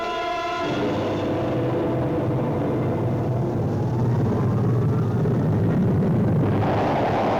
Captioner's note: dramatic music; rocket rumbles